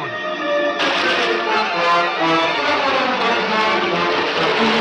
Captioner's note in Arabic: رشات الماء